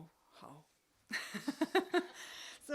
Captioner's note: laugh